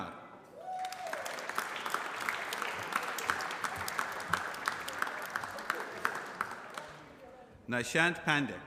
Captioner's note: applause